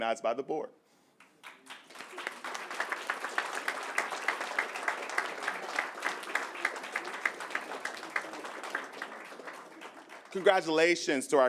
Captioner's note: applause